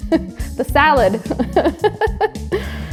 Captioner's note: laughs